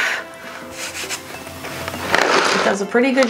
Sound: blows; palm rubbing

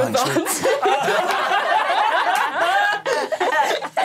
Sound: all laughing

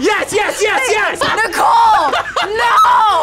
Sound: laughs

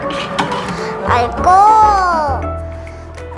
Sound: in grandma's voice

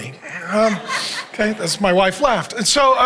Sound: congregation laughing

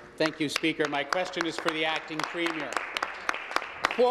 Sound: applause

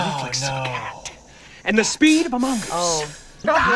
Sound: sighs

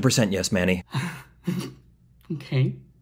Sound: nervous laugh

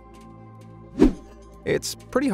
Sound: video whooshing

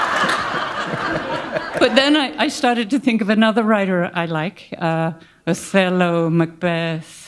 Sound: laughter

